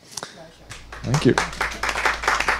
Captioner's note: clapping